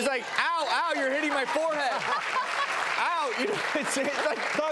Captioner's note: laughing